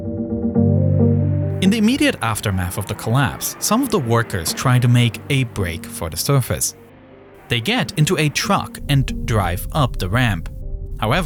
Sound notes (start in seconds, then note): 0.7 truck engine rumbling